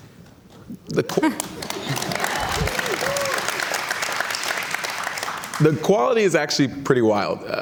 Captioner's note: cheers and Applause